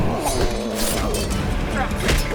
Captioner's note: knife slashes; axes clash; panther grunts